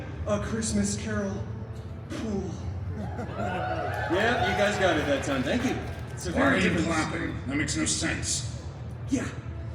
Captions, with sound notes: A Christmas Carol... pool. [guests cheering and applauding] Yeah. You guys got it that time. Thank you. Why are you clapping? That makes no sense. Yeah.